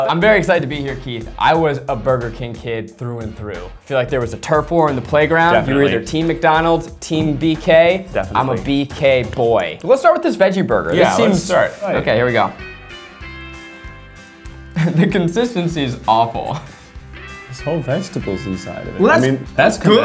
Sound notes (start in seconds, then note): 14.7 laughing